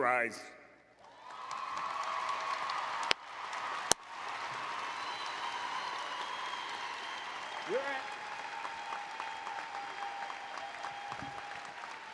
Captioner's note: applause and Cheering